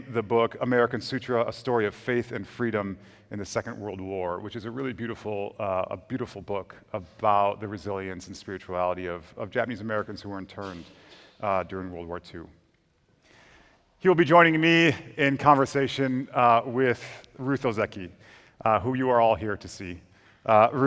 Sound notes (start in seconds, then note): none